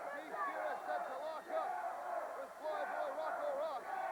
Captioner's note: crowd cheering